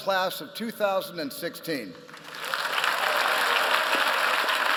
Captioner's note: applause